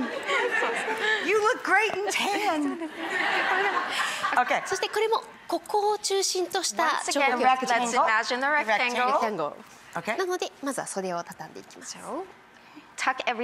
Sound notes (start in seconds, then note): 0.0 crowd laughs; 5.5 speaking foreign language; 10.6 speaking foreign language